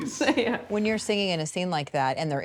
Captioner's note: laughs